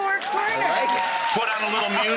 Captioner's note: crowd cheers